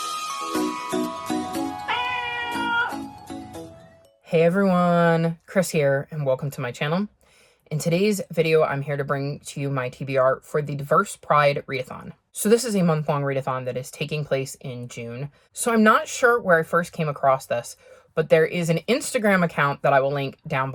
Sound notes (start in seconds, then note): 1.8 meowing Cats